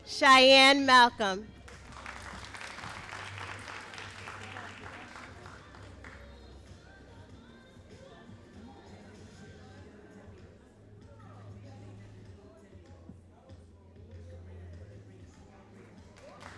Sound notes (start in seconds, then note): 1.6 all applauding